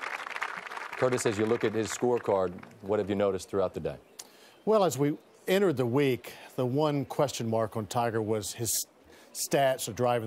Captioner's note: applause